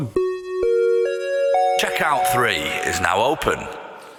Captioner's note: chime